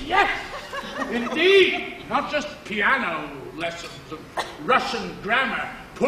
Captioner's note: laugh